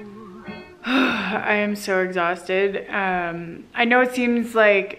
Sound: sighs

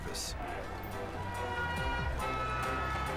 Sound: sirens blaring

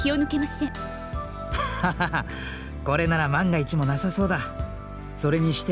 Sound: awkward laugh

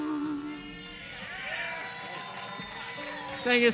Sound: clapping

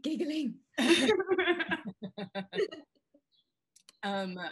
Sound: all laugh

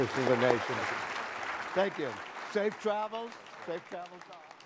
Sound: applause

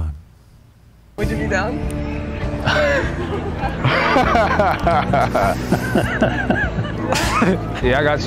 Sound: laughs

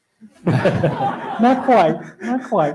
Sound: laughter

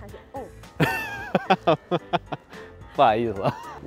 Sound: speaking in foreign language; laughter; speaking in foreign language

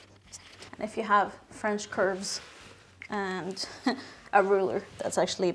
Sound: laughs

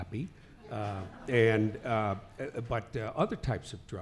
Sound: laughing

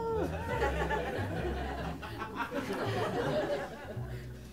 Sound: laughter

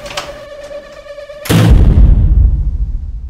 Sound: closing of door; opening of door

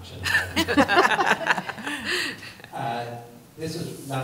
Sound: laughter

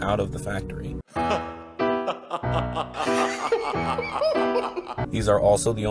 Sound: Laughing in Ford Coyote

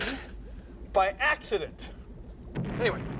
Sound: <i> explosion</i>

